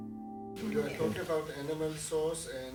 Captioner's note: voiceover